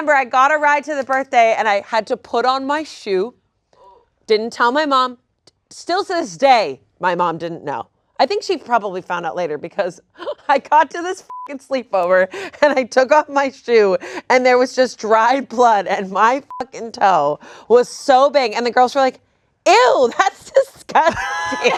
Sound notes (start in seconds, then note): 11.2 beep; 16.4 beep; 21.2 everyone laughing